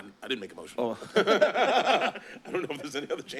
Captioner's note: laughter